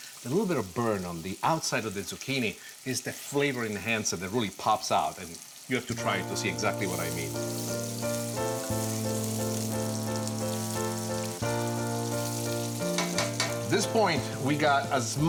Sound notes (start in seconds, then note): 7.8 gentle music; 11.5 food sizzles in pan